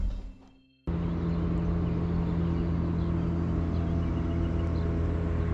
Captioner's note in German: Bootsmotor dreht auf